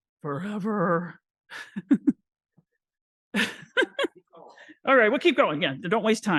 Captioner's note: laughs